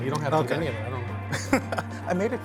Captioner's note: laughs